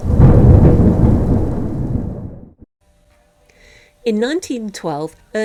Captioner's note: thunder